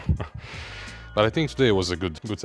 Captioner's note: laughs